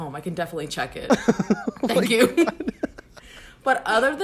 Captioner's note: laughs